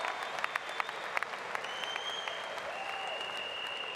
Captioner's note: applause